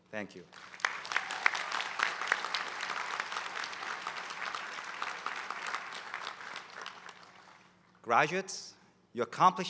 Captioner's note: applause